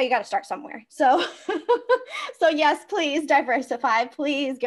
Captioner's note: laughs